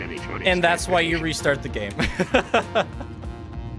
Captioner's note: laughs